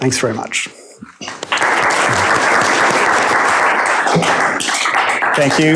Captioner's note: applause